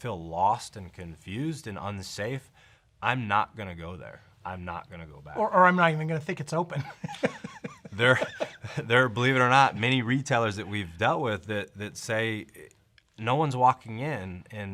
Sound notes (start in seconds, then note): 6.7 laughter